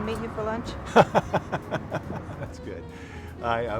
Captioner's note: laughing